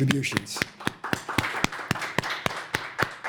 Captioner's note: applause